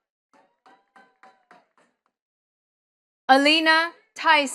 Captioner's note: attendees clapping